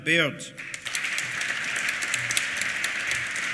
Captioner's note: applause